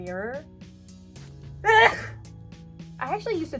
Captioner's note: sneezes like my dad